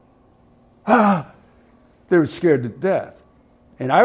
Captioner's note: gasp